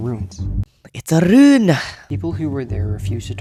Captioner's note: rolls r